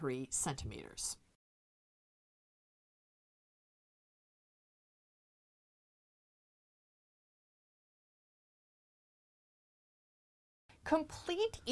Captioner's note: no Sound Present